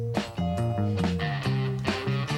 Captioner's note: sighs